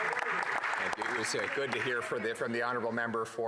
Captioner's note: some Applause